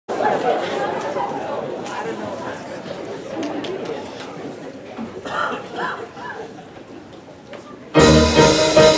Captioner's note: audience noises